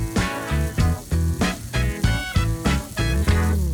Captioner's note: sizzling burgers